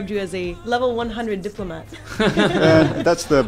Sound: laughter

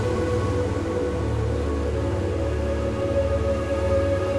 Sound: waves breaking

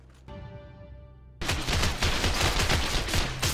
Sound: badass shootout noises

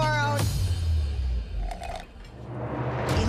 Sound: slurps

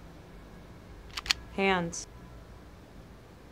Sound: gun cocking

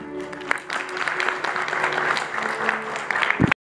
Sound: congregation clapping

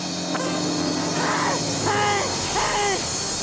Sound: panting

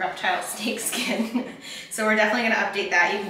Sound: laughing

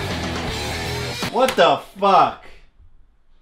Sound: slams spacebar

